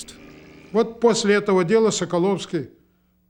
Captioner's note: speaking russian